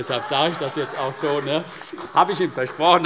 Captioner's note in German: Heiterkeit